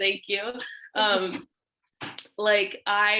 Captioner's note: laughs